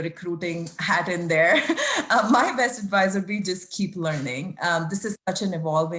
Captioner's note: laugh